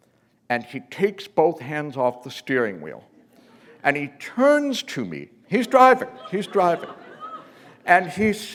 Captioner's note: laughter